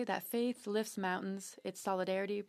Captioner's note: speaking French